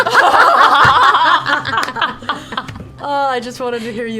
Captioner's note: laughter